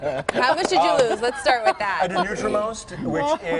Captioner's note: laughter